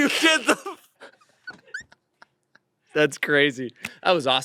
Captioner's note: they laugh